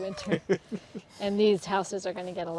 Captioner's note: chuckling